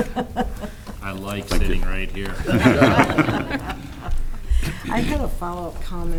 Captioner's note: laughs